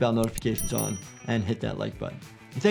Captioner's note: bell dings